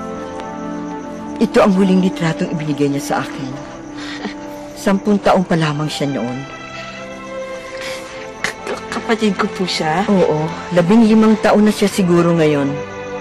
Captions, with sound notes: This is the last picture that was given to me. -[giggles] -She was ten years old then. -She's my sister? -Yes. I think she's 15 years old now